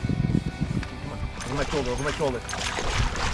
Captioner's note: fish flapping